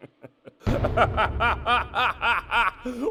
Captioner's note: reserved chuckling; reserved chuckling... into full-on maniacal cackling